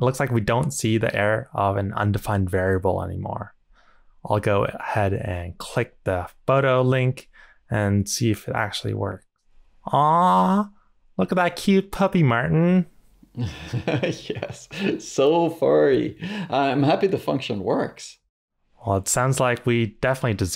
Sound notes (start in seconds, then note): 13.4 laughs